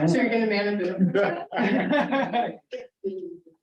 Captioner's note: laughter